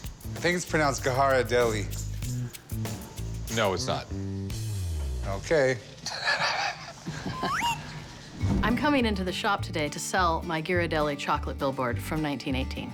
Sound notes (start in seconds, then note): 6.0 laughter; 8.0 voiceover